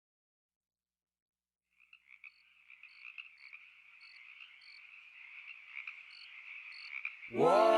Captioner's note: crickets and frogs making eerie noises